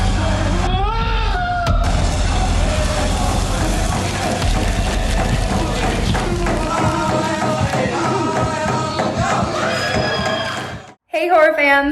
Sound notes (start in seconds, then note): 0.3 drums beating; 0.8 Scott screams; 3.2 machines buzzing; 3.2 trees rustling; 6.2 drums beating; 6.2 group chanting